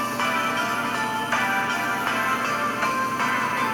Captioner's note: bandsaw buzzing